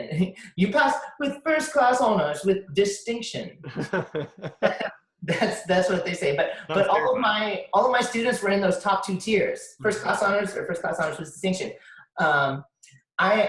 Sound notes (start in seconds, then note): 3.6 both laugh